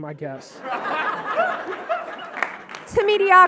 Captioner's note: audience laughing and clapping